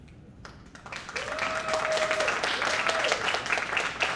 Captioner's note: cheers and applause